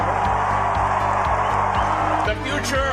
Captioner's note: acclamations